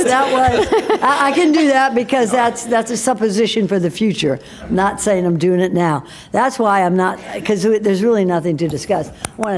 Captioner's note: laughter; laughter